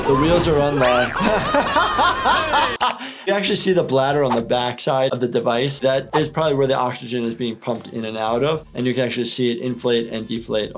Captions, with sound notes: The wheels are unlocked. (laughing) You actually see the bladder on the back side of the device. That is probably where the oxygen is being pumped in and out of. And you can actually see it inflate and deflate,